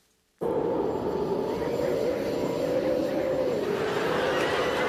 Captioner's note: whirring; laughter and applause